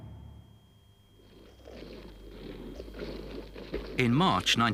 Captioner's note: boots thudding